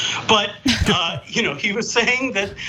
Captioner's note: laugh